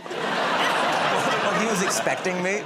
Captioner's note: laughter